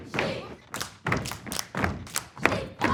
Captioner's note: clapping and stomping